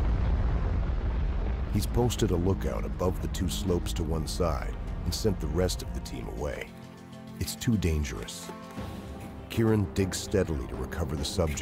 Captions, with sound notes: - [Voiceover] At the accident site, Keiran Gaul clears a path to remove the buried skier. The path will also serve as an escape route should an avalanche let go.